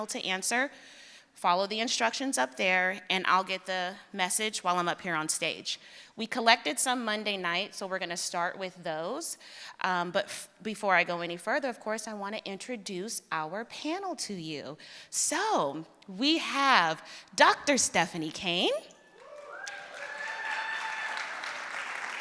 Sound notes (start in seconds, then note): 19.0 cheering